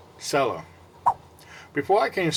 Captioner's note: swipe Sound